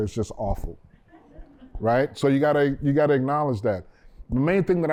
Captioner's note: laughter